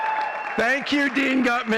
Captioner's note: audience cheering and clapping